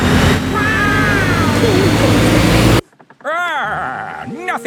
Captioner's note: laughing